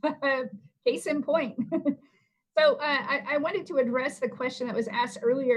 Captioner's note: laughter